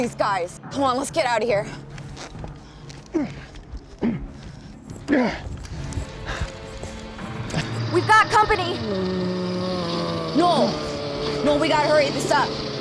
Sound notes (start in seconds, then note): 2.8 grunting; 8.5 moaning